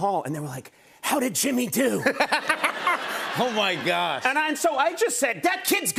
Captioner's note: laughs